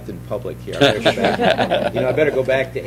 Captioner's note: laughter